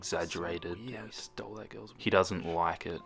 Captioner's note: whispers